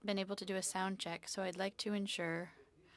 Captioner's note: speaking French